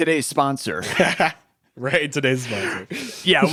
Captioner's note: laughs